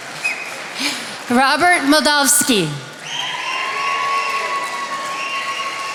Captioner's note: attendees applauding